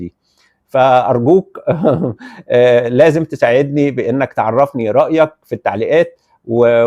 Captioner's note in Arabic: ضحك